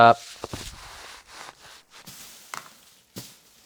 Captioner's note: scraping